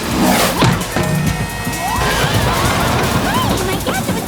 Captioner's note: thud